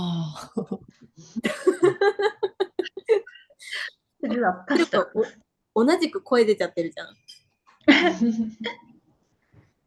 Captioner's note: laughs